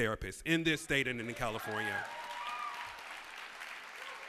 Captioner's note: cheers and applause